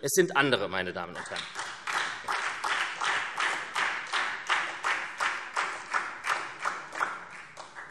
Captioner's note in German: Beifall SPD